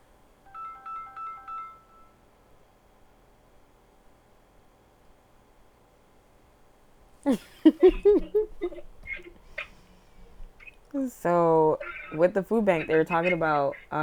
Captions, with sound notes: (phone ringing) (laughing) So with the food bank, they were talking about